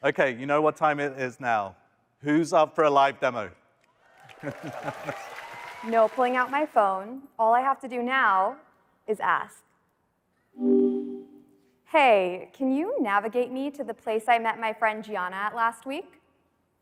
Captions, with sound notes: Okay, you know what time it is now. Who's up for a live demo? (audience cheering and applauding) - No pulling out my phone, all I have to do now is ask. (tone beeping) Hey, can you navigate me to the place I met my friend Gianna at last week?